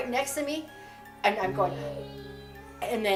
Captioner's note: gasps